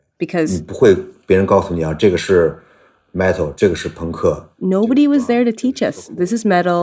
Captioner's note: speaking Mandarin Chinese